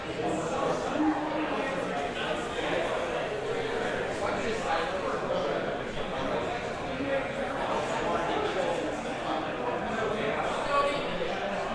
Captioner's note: restaurant noise